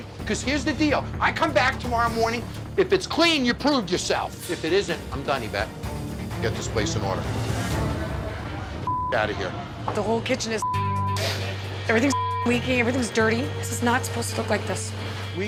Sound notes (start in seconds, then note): 7.9 suspenseful music; 8.8 beep; 11.6 beep